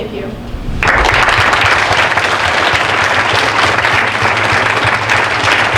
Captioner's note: audience applauding